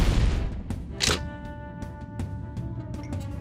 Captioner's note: click